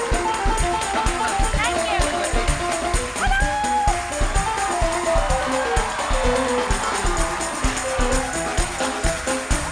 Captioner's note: cheers and applause